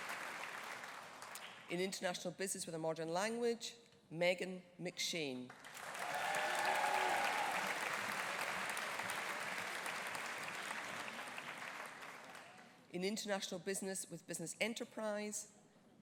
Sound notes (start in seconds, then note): 5.6 audience applauding; 5.8 audience cheering